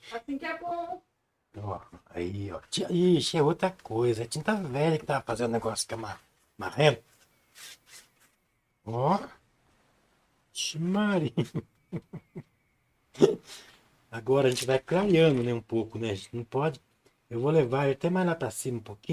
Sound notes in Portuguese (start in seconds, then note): 11.2 risadas